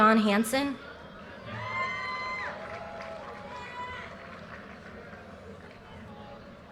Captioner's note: audience cheers and applause